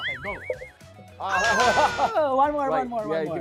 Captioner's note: laughs